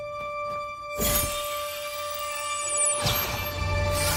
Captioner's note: running footsteps